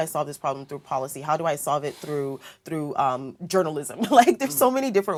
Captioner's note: laugh